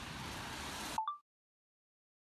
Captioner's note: chime of a phone recorder turning off